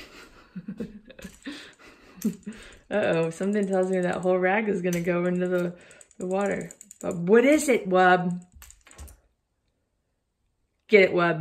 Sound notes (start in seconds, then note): 0.0 laughing